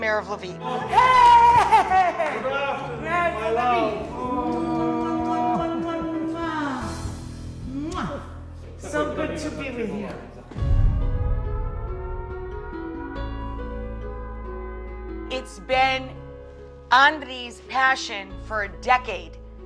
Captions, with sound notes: He is the mayor of Lviv. Hey! Good Afternoon, my love. (Rachel makes kissing sounds) So good to be with you. It's been Andriy's passion for a decade